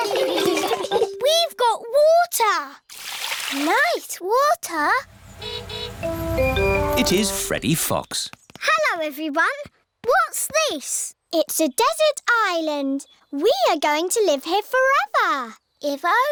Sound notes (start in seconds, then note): 0.0 laughter; 5.0 horn honking